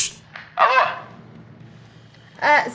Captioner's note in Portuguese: chiado; sotaque carioca